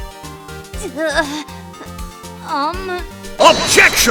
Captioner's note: grunt